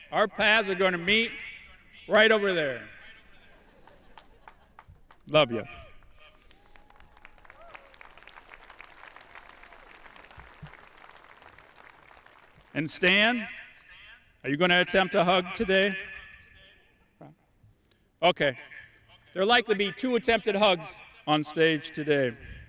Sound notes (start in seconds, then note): 3.0 audience laughing; 6.3 audience applauding